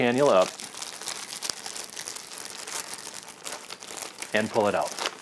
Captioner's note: rustling loudly